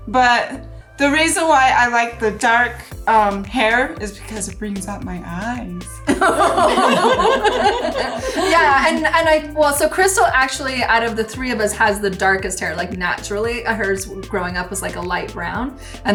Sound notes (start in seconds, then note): 6.0 women laughing